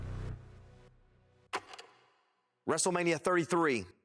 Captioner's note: film reel clicks